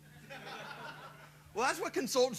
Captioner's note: laughter